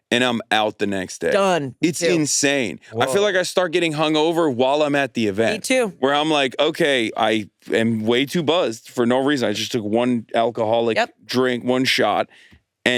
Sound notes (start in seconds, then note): none